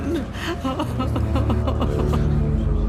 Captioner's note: sobbing